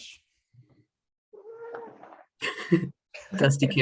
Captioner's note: cat meows